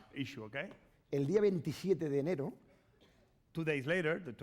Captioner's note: speaking spanish